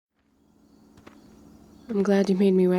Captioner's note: evening ambience and footsteps throughout